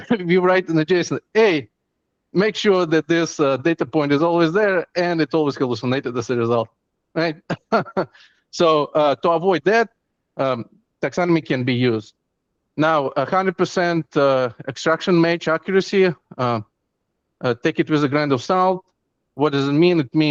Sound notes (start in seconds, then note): 7.2 chuckles